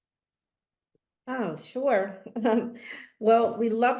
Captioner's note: chuckles